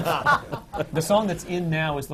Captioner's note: laughter